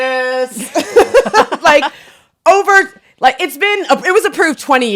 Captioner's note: both laughing